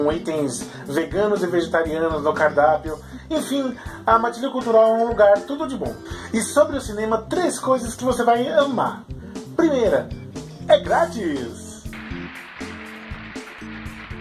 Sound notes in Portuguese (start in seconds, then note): 11.9 Sons de aplausos